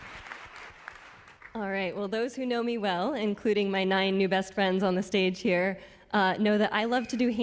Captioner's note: applause